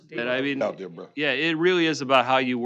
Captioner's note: overlapping chatter